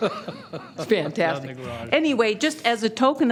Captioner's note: laughter